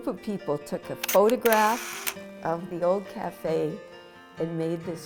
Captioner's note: camera clicks